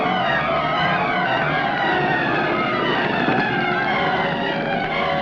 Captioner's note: flames roaring